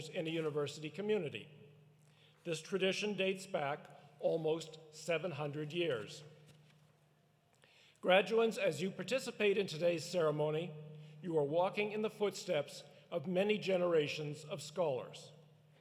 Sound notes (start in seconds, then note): none